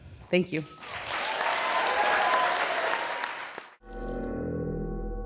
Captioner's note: crowd cheers